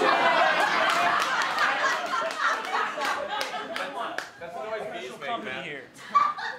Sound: audience laughter

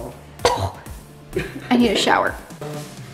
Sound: cough

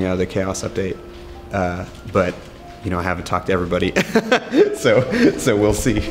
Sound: laughs

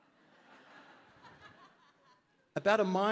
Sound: audience laughing

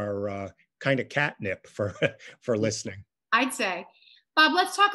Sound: chuckles

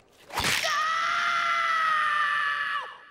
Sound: screaming

